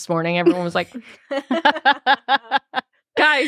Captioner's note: group laughing